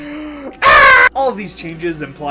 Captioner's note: inhale; deafening scream